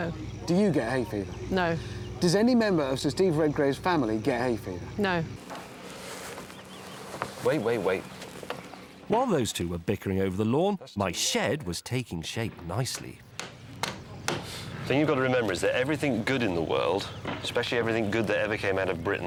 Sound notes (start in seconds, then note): 13.2 hammering